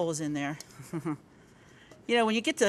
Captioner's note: giggling